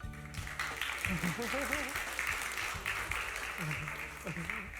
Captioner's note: applause